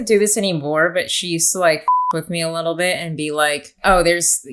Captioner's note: beep